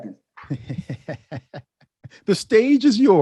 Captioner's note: laughs